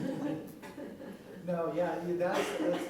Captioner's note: laughter